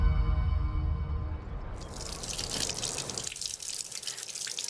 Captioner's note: rushing water